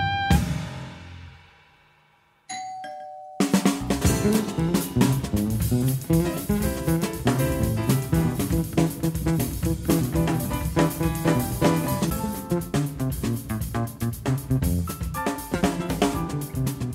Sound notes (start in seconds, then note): 2.5 door bell; 4.0 instrumental jazz music